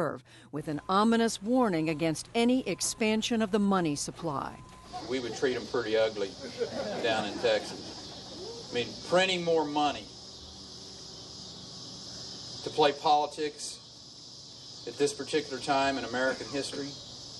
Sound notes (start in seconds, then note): 8.7 laughter